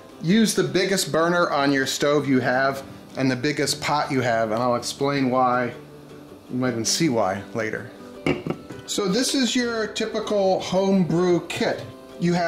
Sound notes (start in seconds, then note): none